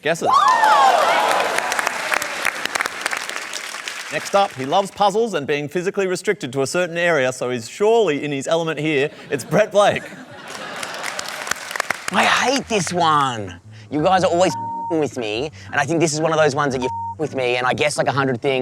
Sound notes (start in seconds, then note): 0.2 cheering and applause; 10.4 applause